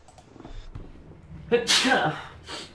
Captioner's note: sneezes